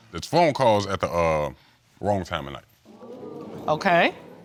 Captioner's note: courtroom gasps